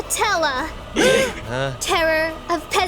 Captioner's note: group gasps